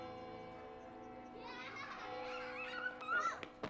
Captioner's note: children laughing and shouting